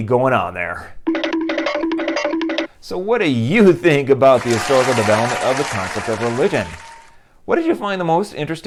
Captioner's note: applause